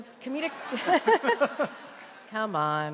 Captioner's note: audience laughs